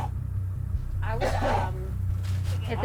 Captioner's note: coughs